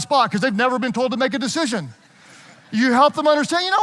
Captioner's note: audience laughing